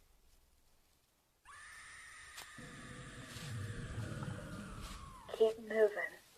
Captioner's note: far off scream